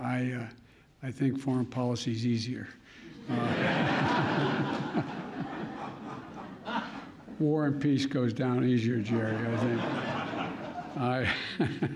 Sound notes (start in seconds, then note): 3.2 laughter